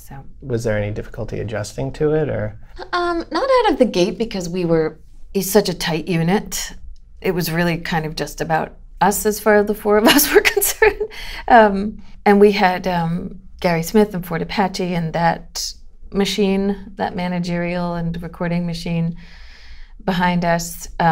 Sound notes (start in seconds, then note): 10.1 laughter